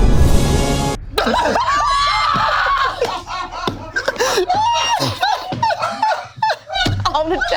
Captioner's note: group laughs; crew laughs